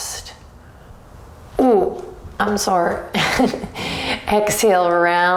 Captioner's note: chuckles